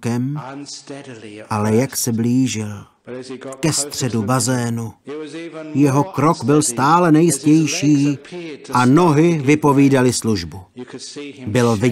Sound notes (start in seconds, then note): none